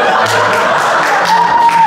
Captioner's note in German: Gelächter